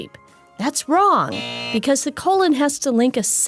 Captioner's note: buzzer beeping